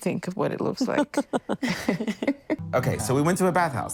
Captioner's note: all chuckle